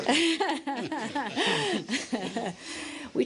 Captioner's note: laughter